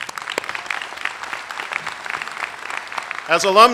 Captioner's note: applause